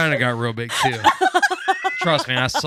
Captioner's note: laughing